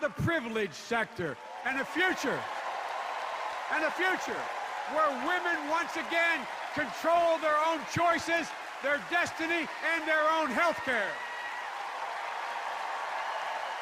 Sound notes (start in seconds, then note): 1.4 cheers and applause